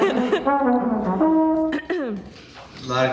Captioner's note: laughing; clearing her throat